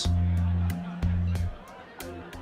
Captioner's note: people talking in background